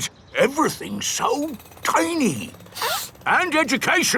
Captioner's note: sniffs